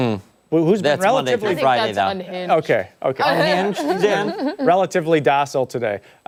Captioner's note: laughter